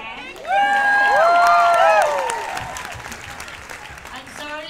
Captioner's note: cheers and applause